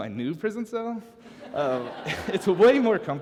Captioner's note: laughter